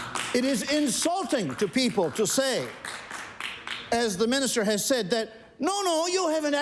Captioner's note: applause